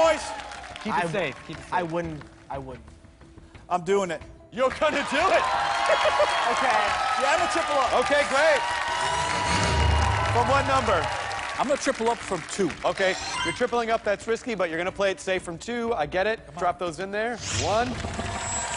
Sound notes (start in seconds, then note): 5.8 laughs